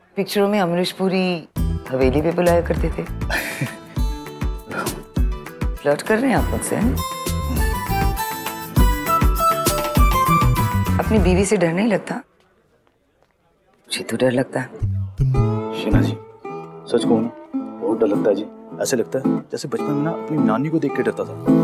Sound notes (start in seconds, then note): 3.3 laughs; 4.6 sighs